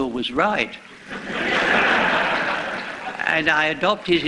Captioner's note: laughter